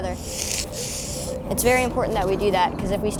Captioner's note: chalk scraping